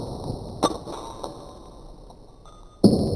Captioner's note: epic slo-mo sound of getting hit in the face with glass